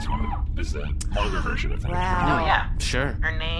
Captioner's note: gasps